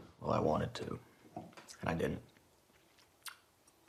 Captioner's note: none